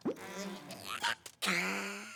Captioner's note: coughs